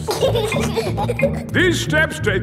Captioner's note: giggling